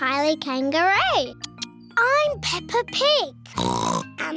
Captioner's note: oinks